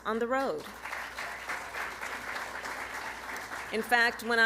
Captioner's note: applause